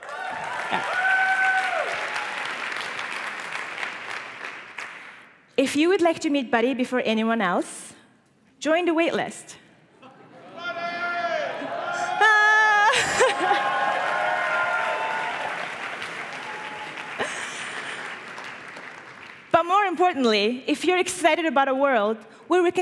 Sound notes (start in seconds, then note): 0.0 applause and cheering; 13.0 applause and cheering